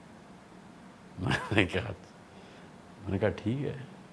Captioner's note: chuckles